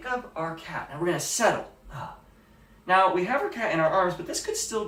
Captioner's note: sigh